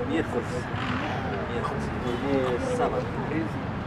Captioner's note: street noises and conversations of passersby